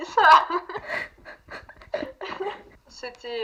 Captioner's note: laugh